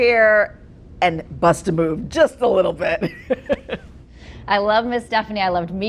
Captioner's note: laughs